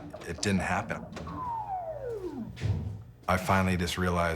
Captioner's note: video game beeping